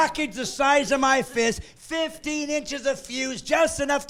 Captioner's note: laughing